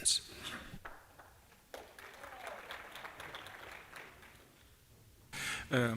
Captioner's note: applause